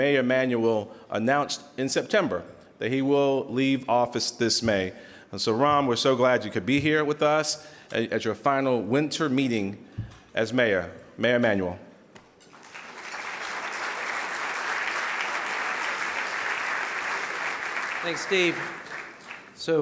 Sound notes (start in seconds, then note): 12.5 audience applauding